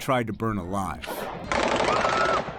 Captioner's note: gunshots